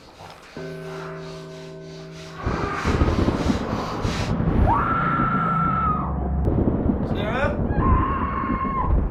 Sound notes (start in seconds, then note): 1.2 deep breathing; 4.5 Sarah screams in distance